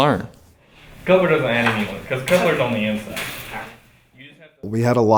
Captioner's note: background talking